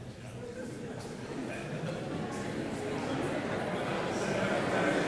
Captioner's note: audience murmurs